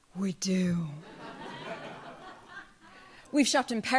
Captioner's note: audience laughs